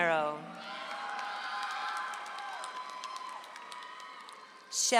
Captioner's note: audience applauds